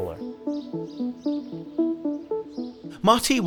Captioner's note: birds chirping; ominous music